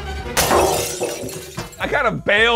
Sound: crashing noise

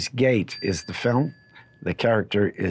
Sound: bell dinging

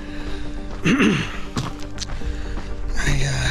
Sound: clearing throat

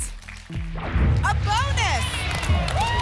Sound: boom; applause and cheering

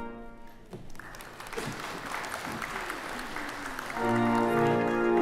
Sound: audience applauds

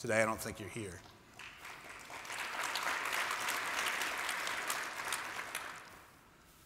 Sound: applause

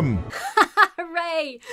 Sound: laughs insincerely

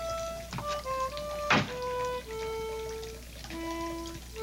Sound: liquid gurgling

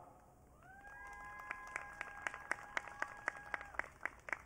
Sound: audience cheering

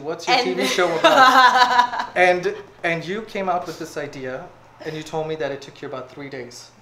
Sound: hahahahaha

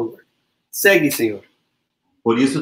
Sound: speaks portuguese

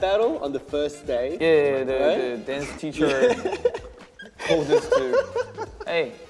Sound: laughing

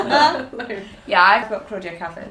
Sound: laughing

